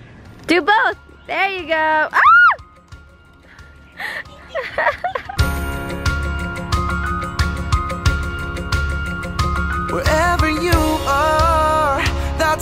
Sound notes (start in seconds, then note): 2.2 screaming and laughing; 5.5 upbeat music